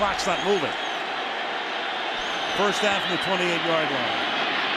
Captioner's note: whistles